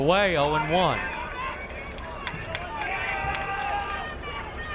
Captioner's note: crowd cheering